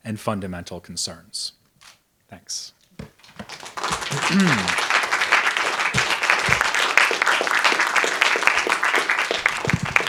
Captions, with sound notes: and fundamental concerns. Thanks. (audience applauding)